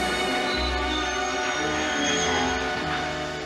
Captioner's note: brakes squealing